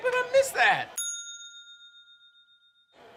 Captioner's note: bell dings